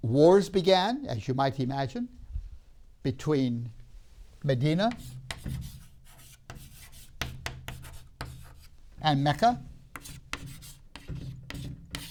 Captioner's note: chalk sounds